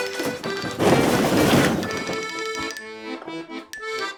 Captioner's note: crash!